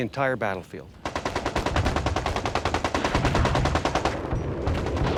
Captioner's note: machine gun firing